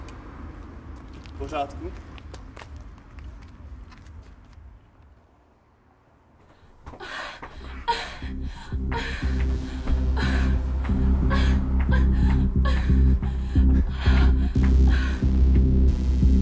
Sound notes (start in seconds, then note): 7.5 moaning